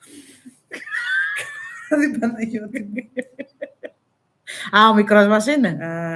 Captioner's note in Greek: γέλια